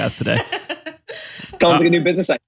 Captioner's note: laughs